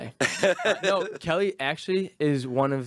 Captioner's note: laughing